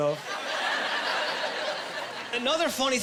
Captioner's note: laughing